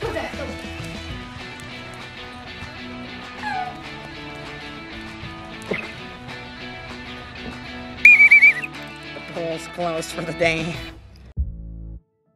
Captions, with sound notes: (whistle blows) - The pool's closed for the day.